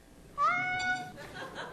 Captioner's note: cat meowing